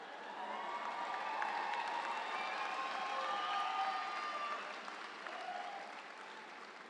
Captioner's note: audience cheering; audience applauds